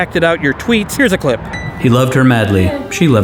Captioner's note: wink Sound